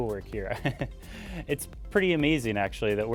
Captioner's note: laughs